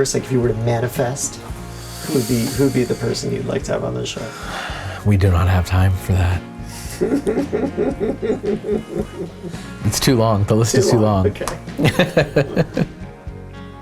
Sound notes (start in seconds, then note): 6.7 interviewer laughing; 11.7 laughing